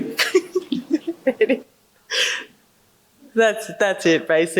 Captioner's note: laughing